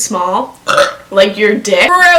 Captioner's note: burps